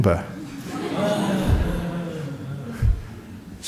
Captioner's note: laughter